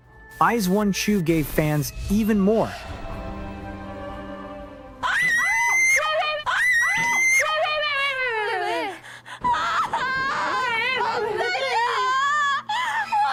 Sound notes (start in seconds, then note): 5.0 screaming; 9.3 crying